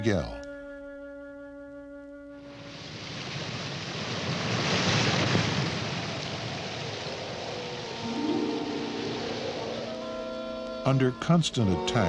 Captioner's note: waves crashing